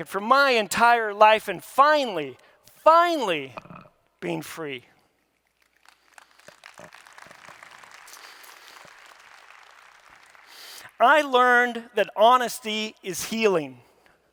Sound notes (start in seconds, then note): 5.4 audience clapping